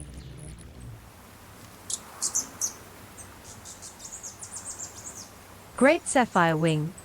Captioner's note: bird chirping